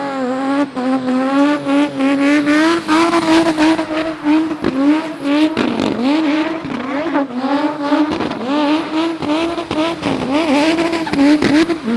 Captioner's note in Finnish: moottoripyörän ääniä